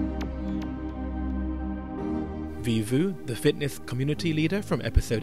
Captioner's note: voiceover